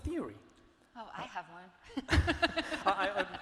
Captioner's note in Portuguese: risos